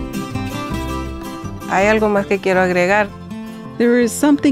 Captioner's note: speaking spanish